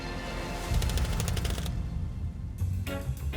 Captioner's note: tense suspenseful music; text clicking; bright upbeat music